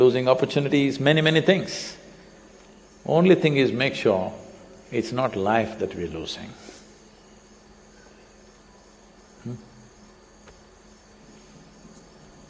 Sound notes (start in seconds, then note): none